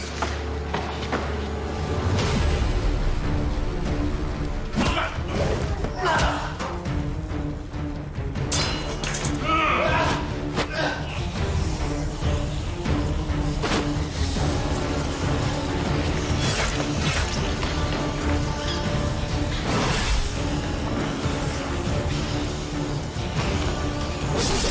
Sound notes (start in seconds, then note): 0.3 dramatic suspenseful music; 4.8 Skip grunting; 5.0 blow thudding; 8.5 weapon clattering; 9.4 fighters grunting; 16.6 dramatic music; 16.6 weapons clanging; 19.7 dramatic suspenseful music; 19.7 power whooshing; 24.5 weapons scraping